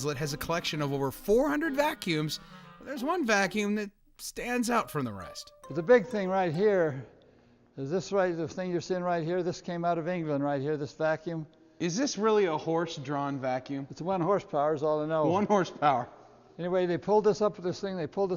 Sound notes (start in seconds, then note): none